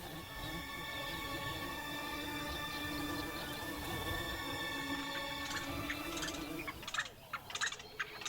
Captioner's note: flies buzzing